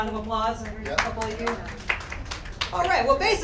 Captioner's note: audience applause